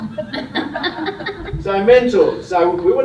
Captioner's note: laughter